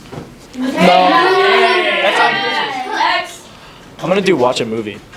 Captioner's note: everyone starts being loud